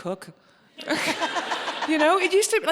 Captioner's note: audience laughing